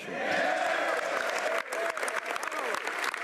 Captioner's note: speaking French